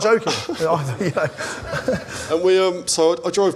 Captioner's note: laughter